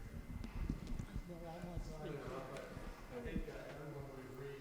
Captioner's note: audience chattering